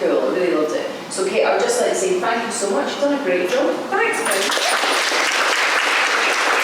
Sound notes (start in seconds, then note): 4.3 applause